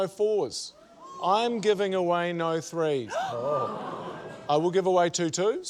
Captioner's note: all gasp